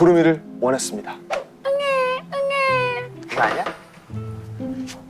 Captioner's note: crying